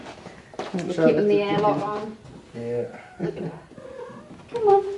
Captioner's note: laughs